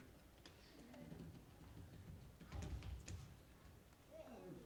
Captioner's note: footsteps thumping